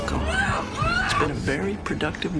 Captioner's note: muffled screaming